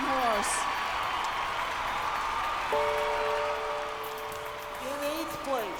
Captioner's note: cheers and applause